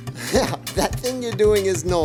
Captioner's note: Vivo laughing